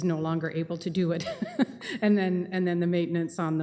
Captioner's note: chuckles